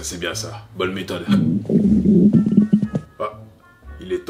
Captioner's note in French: Bruit d'estomac